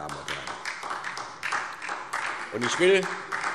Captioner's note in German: Beifall SPD